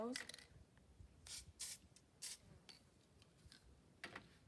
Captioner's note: spray noisies